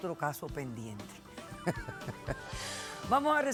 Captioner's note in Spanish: risas